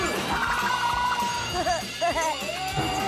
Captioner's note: giggles